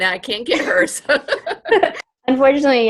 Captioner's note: laughs